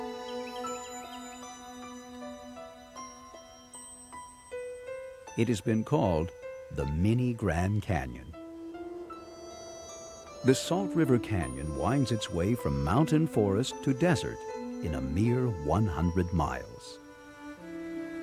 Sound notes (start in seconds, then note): 5.3 voiceover